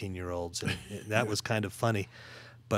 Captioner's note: laughing